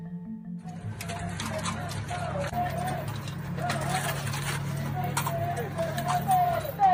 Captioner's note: doors rattling; people chanting